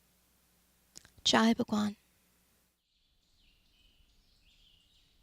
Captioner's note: speaks foreign language